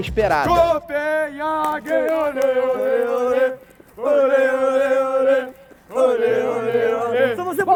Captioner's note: chanting